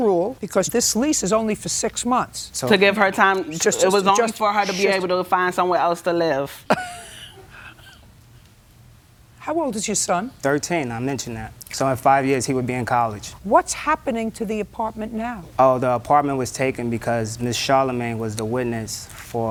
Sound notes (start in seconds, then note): 6.6 laughs